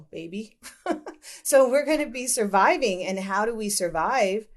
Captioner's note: laughter